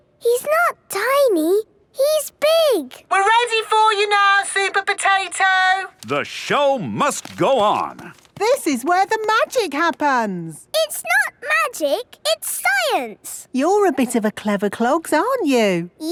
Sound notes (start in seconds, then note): 3.1 through megaphone